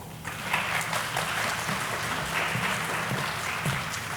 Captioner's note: audience applauding